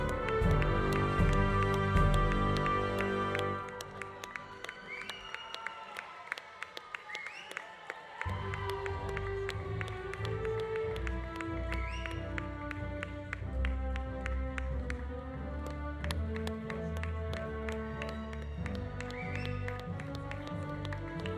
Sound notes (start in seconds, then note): 4.5 audience applauding; 4.5 audience cheering